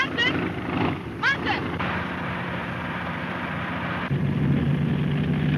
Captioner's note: engine puttering